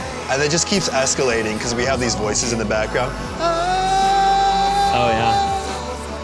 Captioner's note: vocalizes